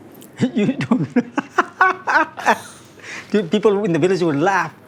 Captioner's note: laughs